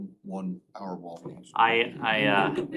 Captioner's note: laughter